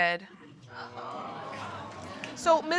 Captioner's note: audience gasps